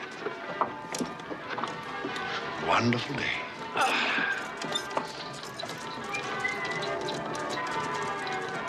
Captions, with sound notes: Wonderful day. Ahh. [Whistles]